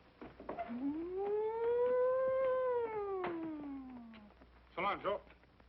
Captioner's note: making siren noise